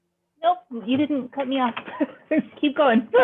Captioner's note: chuckling